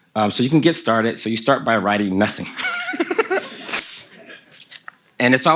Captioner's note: Kelsey and the audience laugh